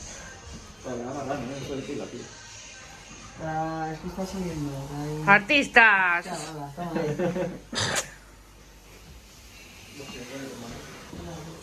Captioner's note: laughs